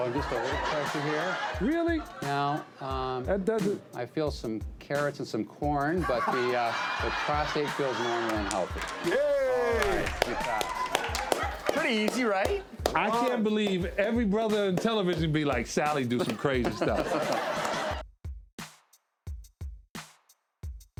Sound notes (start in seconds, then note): 6.0 audience laughing; 11.0 audience applauding; 16.1 audience laughing; 18.3 upbeat music